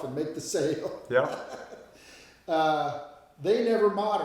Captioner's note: laughing